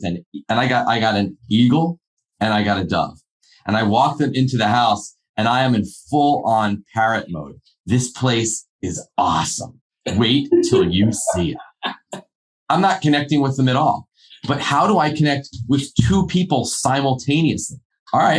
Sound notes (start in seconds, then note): 10.1 laughing